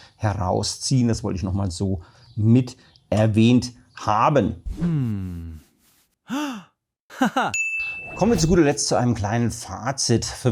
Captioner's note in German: japst